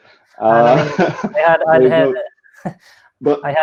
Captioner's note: laughing